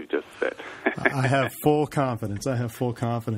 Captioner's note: laughs